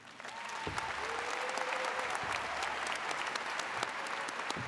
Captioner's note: audience cheers